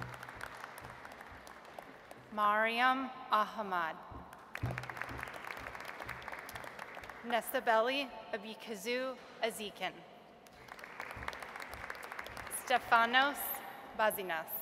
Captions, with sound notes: (audience applauds) Maryum Ahmad. (audience applauds) Nessibeli Aibekkyzy Aziken. (audience applauds) Stefanos Bazinas.